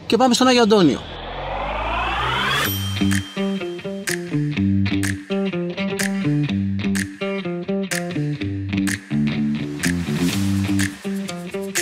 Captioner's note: clap